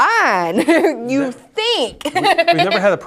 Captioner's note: laughs